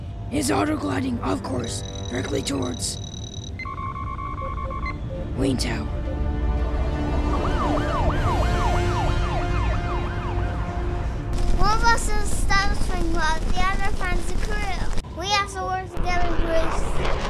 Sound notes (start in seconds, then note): 3.4 computer alarm; 6.2 traffic and police sirens